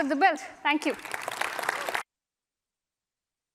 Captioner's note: applause